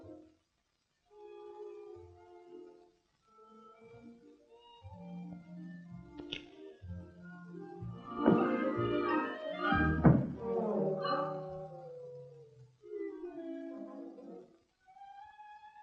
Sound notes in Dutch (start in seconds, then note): none